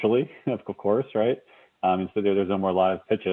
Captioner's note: laughs lightly